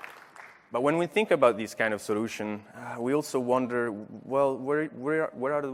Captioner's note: applause